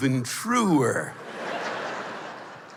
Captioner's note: laughter